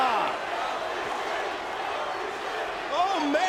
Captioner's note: crowd chants indistinctly